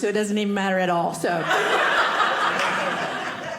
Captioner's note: audience laughing